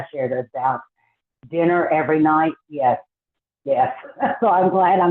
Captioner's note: laughs